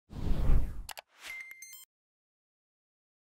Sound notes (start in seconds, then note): 0.1 whoosh; 1.2 beep